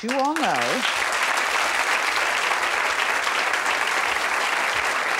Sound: audience applauding

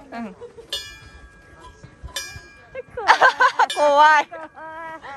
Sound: ding

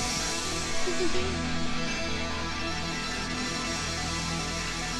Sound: chuckles

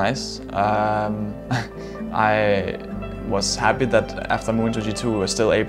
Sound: laughs

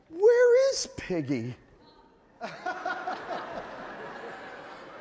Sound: audience laughing

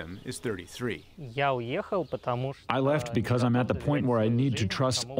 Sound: through translator

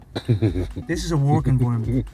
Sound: Gary laughing

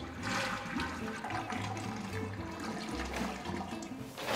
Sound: toilet flushing

